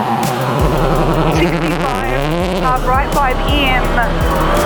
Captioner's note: engine revving